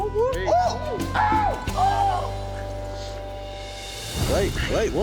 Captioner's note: cheering